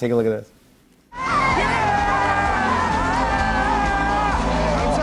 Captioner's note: cheering